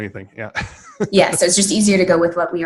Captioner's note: laughing